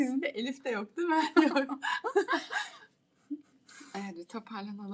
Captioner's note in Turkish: kahkaha